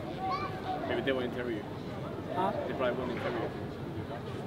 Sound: people murmuring

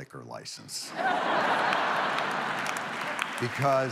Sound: audience laughs

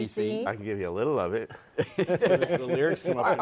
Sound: laughter

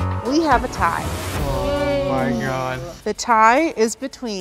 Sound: group gasping

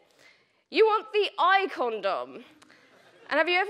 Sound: audience laughing

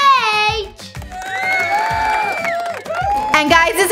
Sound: audience applauding, clapping, and whistling

